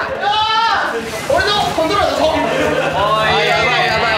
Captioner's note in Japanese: 笑い